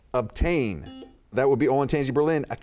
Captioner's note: buzzer beeping